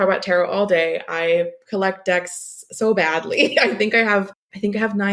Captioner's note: laughs